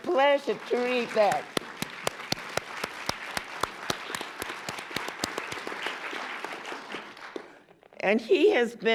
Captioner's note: applause